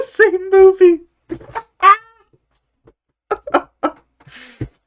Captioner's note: cackling